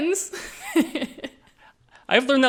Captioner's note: all laughing